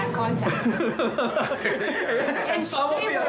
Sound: laugh

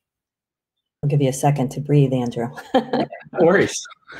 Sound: laughing

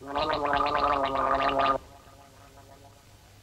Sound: gargles noisily

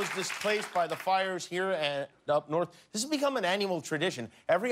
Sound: cheers and applause

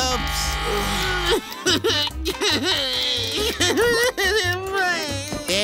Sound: sobbing

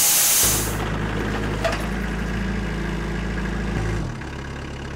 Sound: skid steer engine humming

